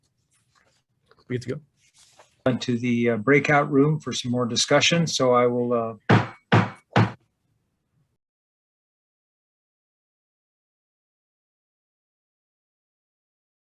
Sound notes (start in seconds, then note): 6.0 gavel banging